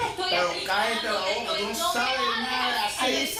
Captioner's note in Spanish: protesta a gritos